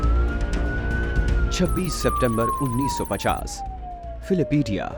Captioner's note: sirens wail